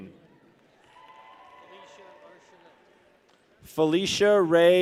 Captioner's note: people cheer